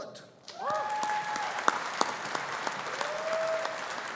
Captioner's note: audience applauding